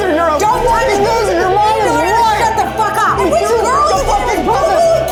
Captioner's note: overlapping chatter